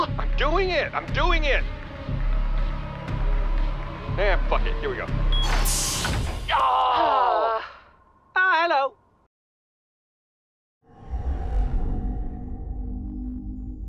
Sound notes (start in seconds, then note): 6.6 everyone sighs from the tension